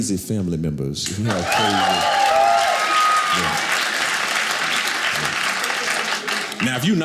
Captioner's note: audience clapping